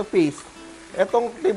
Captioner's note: sizzle